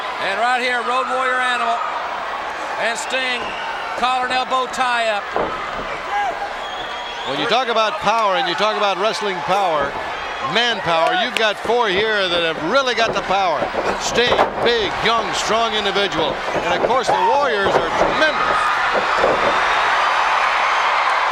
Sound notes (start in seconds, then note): 0.0 crowd shout; 5.5 crowd shout; 18.5 crowd shout